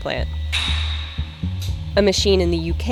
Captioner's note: loud metal popping